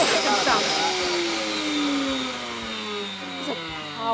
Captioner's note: blender powers down